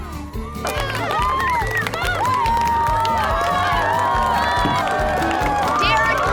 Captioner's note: cheering, applause